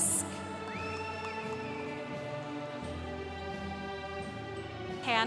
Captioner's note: congregation cheering